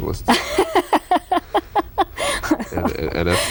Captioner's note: laughter